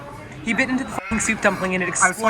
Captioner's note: sheep bleating